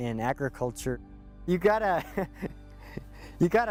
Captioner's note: chuckles